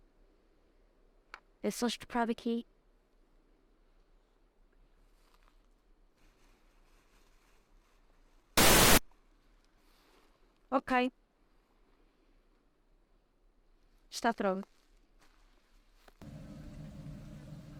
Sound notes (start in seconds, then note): 8.6 glitch sound; 16.2 eerie hollow sound and buzzing of flies